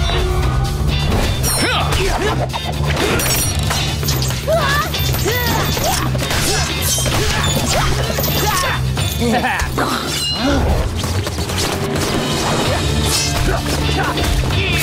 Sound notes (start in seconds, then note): 1.1 grunting; 9.1 chuckles; 9.9 gasping; 13.2 grunting